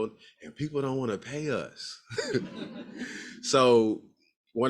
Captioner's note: laughs